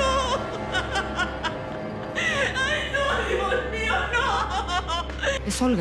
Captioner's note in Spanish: Sollozos